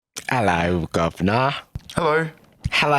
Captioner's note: britishly